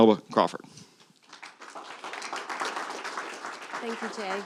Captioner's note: applause